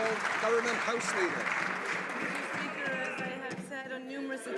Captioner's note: some Applause